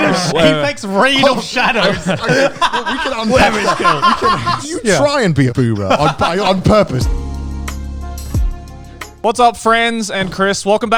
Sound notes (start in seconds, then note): 2.4 laughing loudly; 7.3 upbeat music